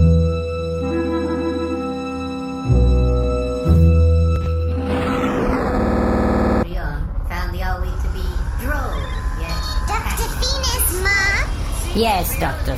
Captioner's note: beeping